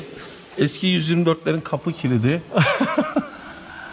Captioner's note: laughings